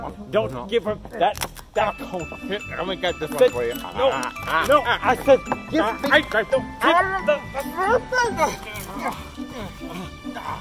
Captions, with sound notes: Don't give her that cone... Lemme get this one for ya... No, I said...no... give ... me... (sounds of struggling)